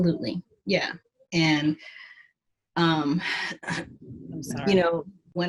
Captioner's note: clears the throat